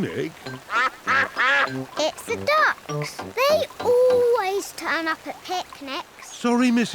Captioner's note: quacks